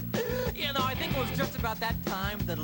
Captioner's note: inhale